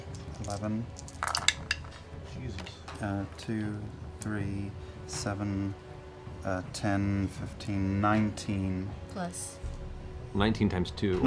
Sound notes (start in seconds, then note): none